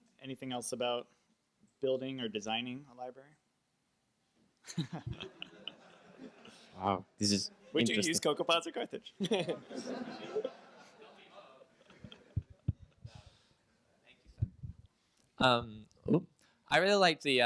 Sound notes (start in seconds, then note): 0.0 voiceover; 4.6 chuckles; 7.1 voiceover; 9.2 audience laughs; 16.7 voiceover